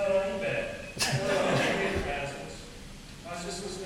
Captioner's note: audience laughing